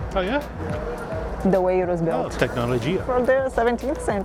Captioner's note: in Portuguese; in Portuguese